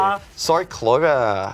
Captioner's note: speaking in foreign language